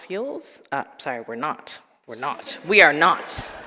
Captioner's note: attendees laughing